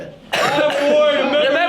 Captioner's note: coughing